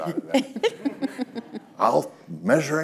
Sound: all chuckling

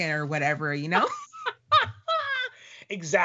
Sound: laughing

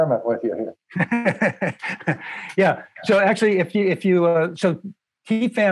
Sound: laughter

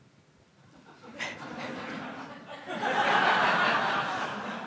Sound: laughing

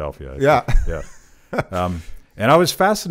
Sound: chuckles

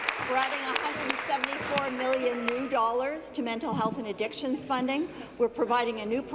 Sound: applause

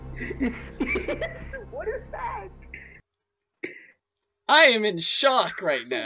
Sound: laughing

